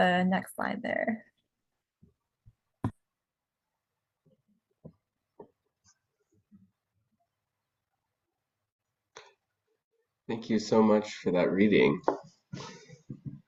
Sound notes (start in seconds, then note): 1.3 silent pause